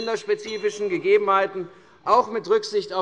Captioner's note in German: Unruhe - Glockenzeichen der Präsidentin